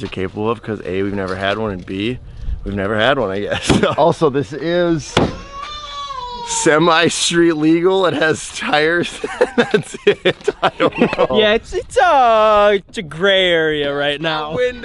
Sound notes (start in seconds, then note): 5.2 child crying; 8.0 laughs